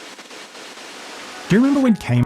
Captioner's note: static noise